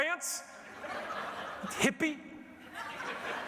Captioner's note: audience laughing